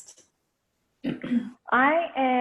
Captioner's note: clears throat